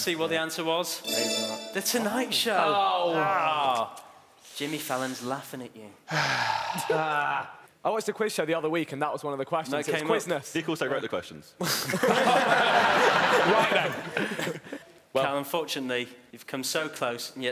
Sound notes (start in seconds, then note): 1.0 chiming; 3.1 groaning; 6.0 exhales heavily; 7.2 groaning; 12.0 laughing